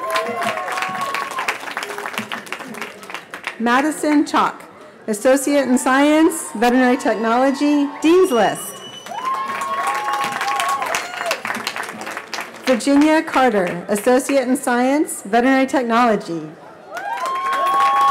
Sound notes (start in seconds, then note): 0.0 cheering; 9.8 cheering; 16.8 cheering